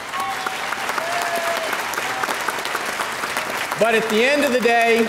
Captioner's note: audience applauding